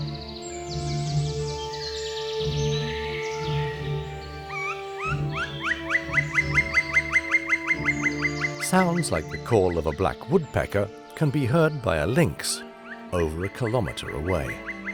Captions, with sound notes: [woodpecker calling] Sounds like the call of a black woodpecker can be heard by a lynx over a kilometer away.